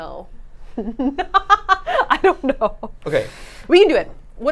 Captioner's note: laughing